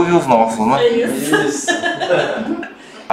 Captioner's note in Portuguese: risos